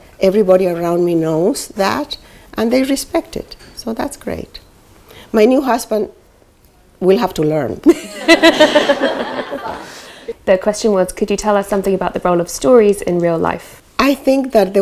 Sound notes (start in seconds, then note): 7.8 laughter